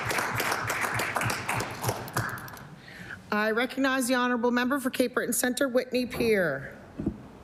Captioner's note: applause